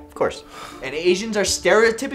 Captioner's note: exasperated sigh, wondering when his lease is up